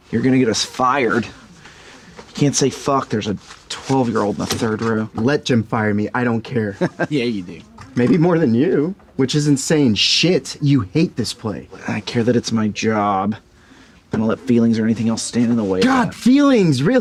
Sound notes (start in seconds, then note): 6.6 chuckling